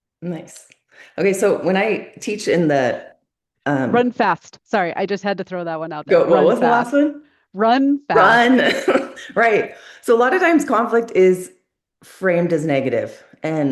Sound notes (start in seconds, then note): 8.2 laughs